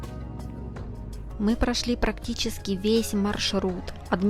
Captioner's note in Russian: закадровый голос